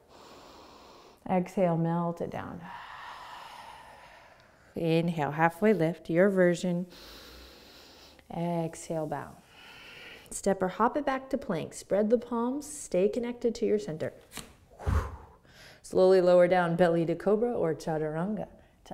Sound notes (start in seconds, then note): 0.0 inhaling; 2.6 exhaling; 6.9 inhaling